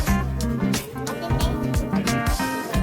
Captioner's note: dogs